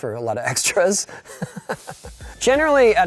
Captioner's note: laughing